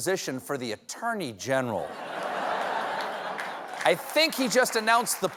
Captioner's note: laughter